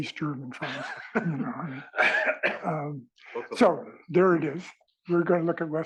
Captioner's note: cough